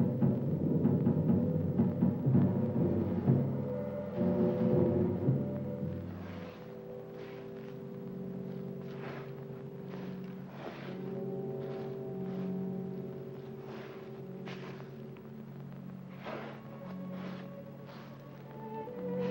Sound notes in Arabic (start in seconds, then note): 6.0 أصوات الجرافات; 6.0 موسيقى مشؤومة; 16.1 أصوات الجرافات; 16.5 موسيقى حزينة